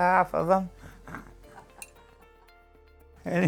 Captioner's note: laughter